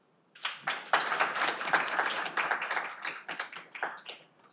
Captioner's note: audience applauding